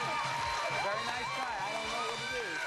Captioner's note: crowd applauds